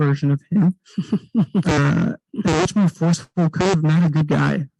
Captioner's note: distorted microphone